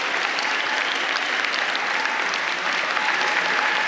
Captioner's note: applause